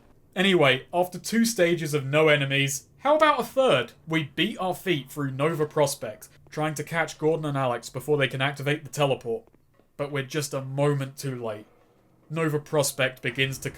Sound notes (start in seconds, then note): none